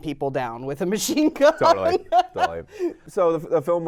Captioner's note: laughs